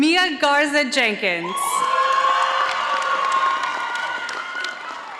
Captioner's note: audience applauding